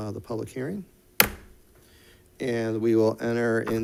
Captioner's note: gavel bangs